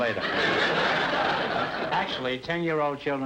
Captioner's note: audience laughter